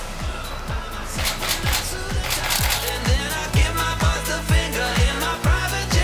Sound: camera shutter clicking

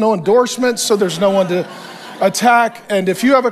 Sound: congregation laughs

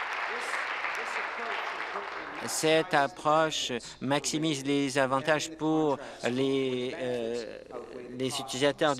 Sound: applause

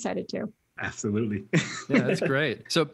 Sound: laughs

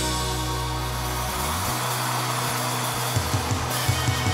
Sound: crowd cheering

